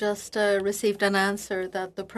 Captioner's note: speaking French